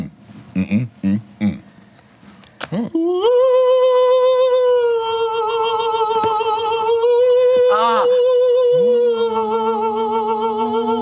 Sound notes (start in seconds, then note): 0.8 grunting; 3.8 wails melodically